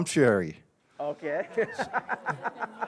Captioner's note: laughing